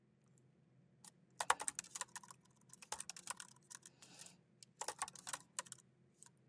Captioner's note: keyboard clacking continues